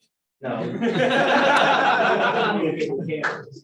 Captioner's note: laughter